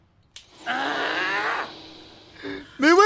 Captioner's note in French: Grognement enragé